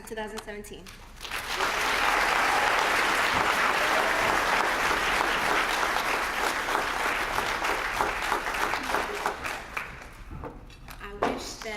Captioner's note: applause